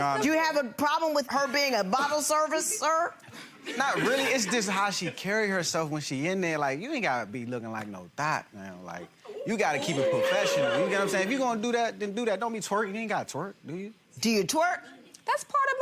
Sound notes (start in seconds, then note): 3.3 gallery laughs; 9.2 gallery oohs